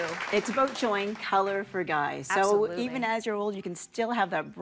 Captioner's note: applause